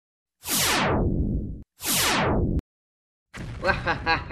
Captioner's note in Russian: Лазеры стреляют; Злобный смех КНДР